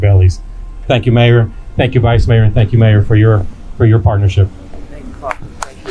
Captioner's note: clapping